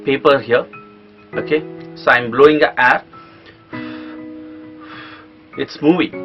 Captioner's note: blowing air